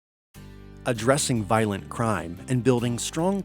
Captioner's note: voiceover